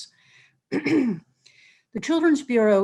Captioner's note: clears throat